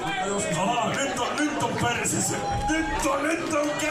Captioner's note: lewd shouting